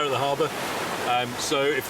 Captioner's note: waves rushing